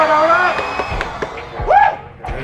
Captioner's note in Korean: 짝짞짞짝